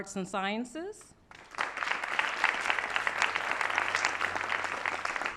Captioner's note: applause